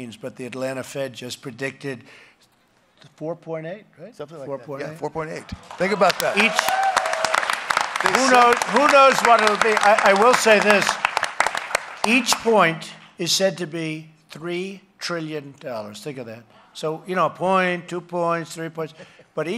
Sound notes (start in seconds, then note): 7.8 applause